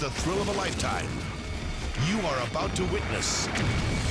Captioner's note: flames exploding; car exploding; fire exploding